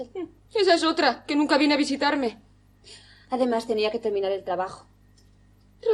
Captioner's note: none